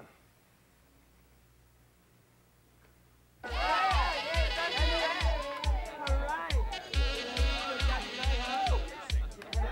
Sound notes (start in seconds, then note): 3.4 upbeat music; 3.5 students chattering